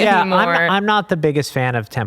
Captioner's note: all chuckles